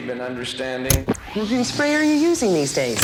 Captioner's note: knob clicking